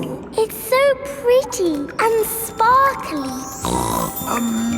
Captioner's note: snorts